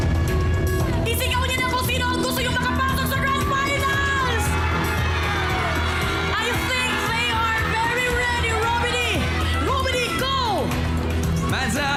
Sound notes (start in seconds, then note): 0.2 suspenseful music playing; 5.5 audience cheering